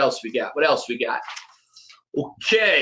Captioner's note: pages rustling